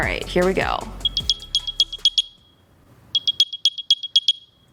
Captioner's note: Airpods chime